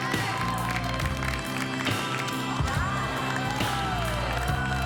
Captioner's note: cheers and applause